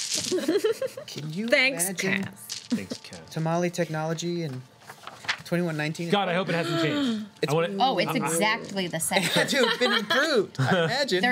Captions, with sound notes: (laughing) Thanks, Cass. Thanks, Cass. Tamale technology in 2119? God I hope it hasn't changed. (gasps) Oh it's exactly the same. (laughs) It's been improved, I imagine.